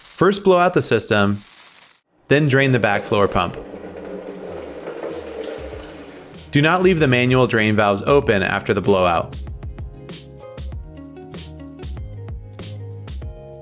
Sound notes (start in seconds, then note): 2.4 tap water running; 9.6 gentle upbeat music